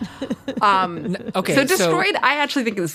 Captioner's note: laughs